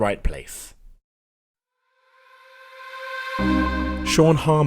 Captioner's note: voiceover